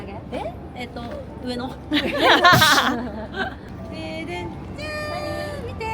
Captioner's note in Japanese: 笑い